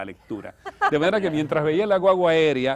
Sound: risas

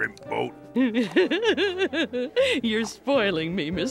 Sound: giggling

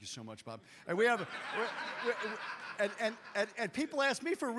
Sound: audience laughs

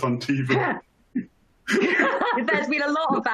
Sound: both chuckle

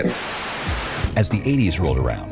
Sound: tv static

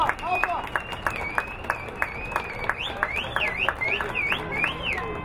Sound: crowd cheering

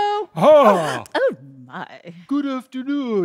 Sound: gasps

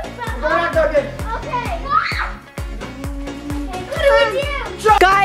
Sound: screams

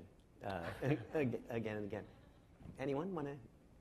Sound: laughing

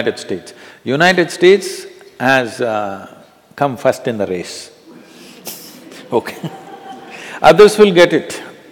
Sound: laughter

